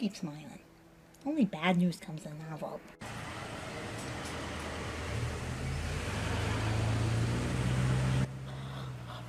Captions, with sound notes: Yeah, you keep smiling. Only bad news comes in an envelope. (engine running)